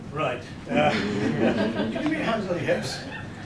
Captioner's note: laughter